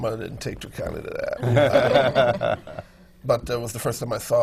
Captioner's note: laughter